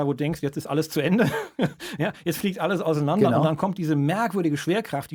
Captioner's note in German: gelächter